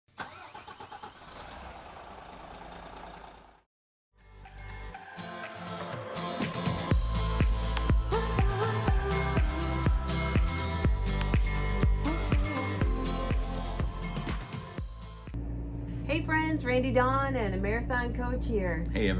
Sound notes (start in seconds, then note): 0.1 engine starting; 4.5 upbeat music